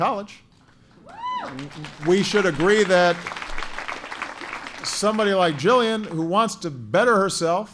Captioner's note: applause